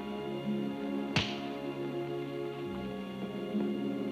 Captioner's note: hand smacks